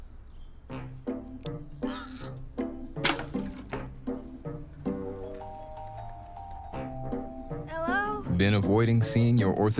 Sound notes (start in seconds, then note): 0.6 quirky music; 1.8 woman grunts